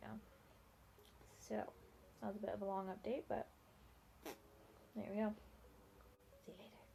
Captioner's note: makes toot noise with mouth